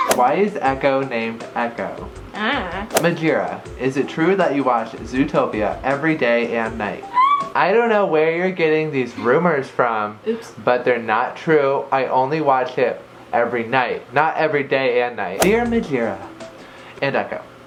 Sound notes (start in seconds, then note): 7.0 squeals